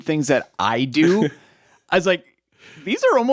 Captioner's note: chuckles